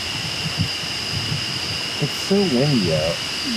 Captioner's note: wind whooshing